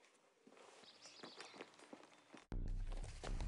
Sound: birds chirping

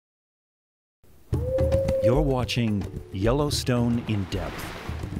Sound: coyote howl, music, and the sound of a geyser erupting

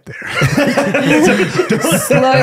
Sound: laughing

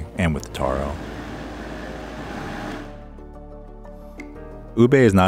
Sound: blender whirring

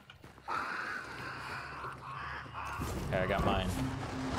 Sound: crows cawing

